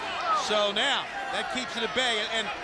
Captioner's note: crowd chatter